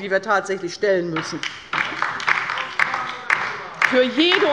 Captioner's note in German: Beifall bei der LINKEN